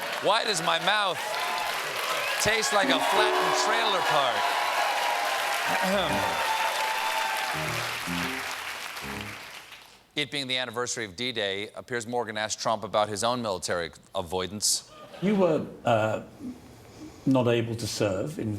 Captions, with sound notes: WHY DOES MY MOUTH TASTE LIKE A FLATENNED TRAILER PARK. (APPLAUSE) THE ANNIVERSARY OF D-DAY MORGAN ASKED TRUMP ABOUT HIS OWN MILITARY A HIDE-- AVOID ANS.